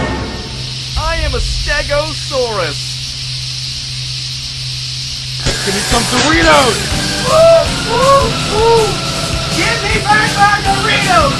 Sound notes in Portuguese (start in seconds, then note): 7.2 cof